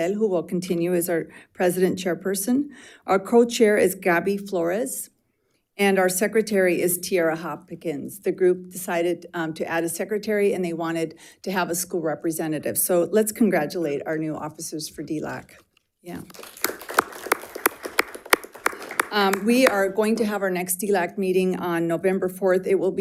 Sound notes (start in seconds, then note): 16.2 crowd applauding